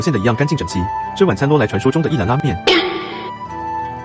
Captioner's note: laughs